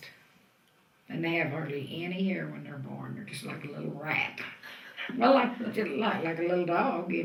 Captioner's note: laughs